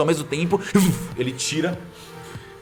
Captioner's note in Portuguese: vush